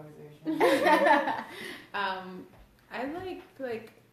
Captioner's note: laughs